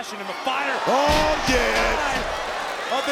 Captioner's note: bodies thudding